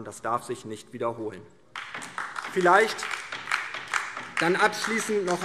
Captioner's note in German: Beifall DIE LINKE